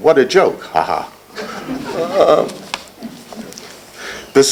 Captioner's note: laughter